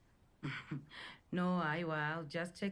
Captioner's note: chuckles